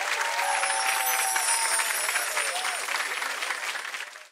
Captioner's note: gentle chiming